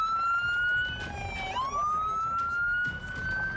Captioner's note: sirens wailing